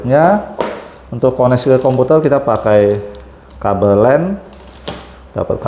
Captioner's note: plastic noise